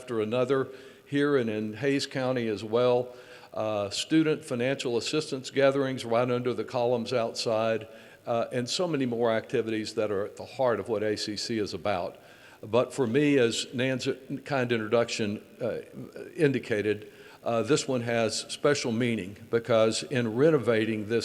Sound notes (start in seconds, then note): none